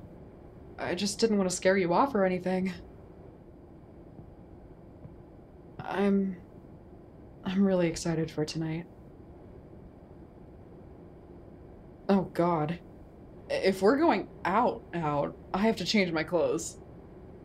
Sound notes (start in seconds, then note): none